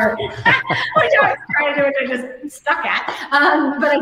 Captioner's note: laughing